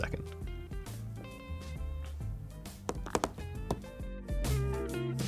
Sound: fingers tapping; lively music

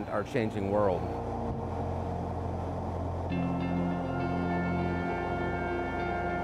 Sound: airplane taking off

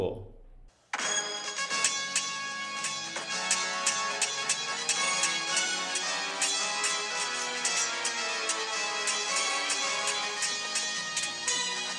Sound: swords Clashing

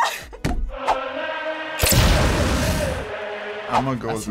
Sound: laughing; explosion

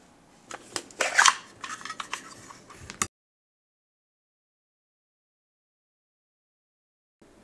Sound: sound muted

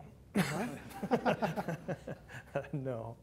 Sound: laughter

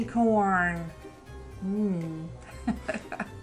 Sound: laughs

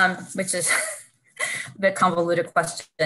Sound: laughs

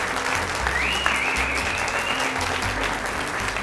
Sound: applause; applause whistling; applause

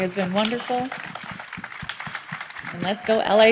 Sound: applause

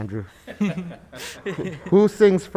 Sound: members laughing

